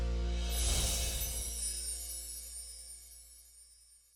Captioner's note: whimsical sound